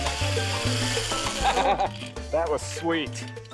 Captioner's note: laughs